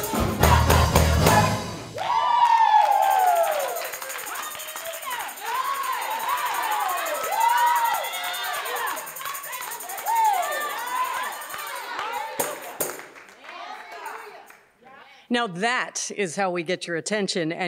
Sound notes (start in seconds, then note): 1.9 applause